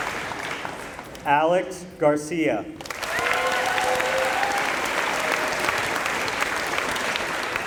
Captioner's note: applause